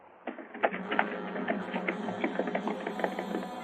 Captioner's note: horse galloping